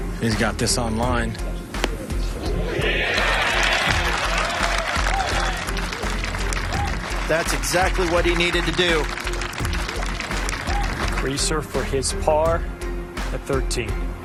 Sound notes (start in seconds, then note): 2.6 crowd cheering and applauding